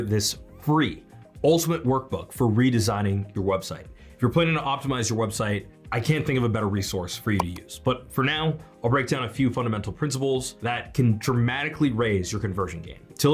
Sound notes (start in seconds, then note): 7.4 mouse clicks